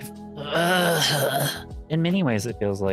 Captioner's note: groans